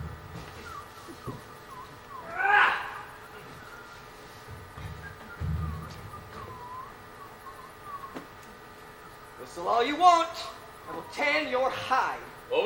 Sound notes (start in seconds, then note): 0.4 John Little whistles to himself; 2.3 Robin grunts; 4.7 John Little whistles